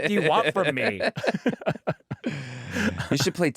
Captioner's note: laughter